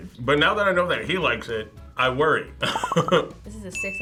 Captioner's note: laughs